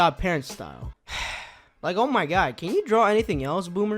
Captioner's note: sigh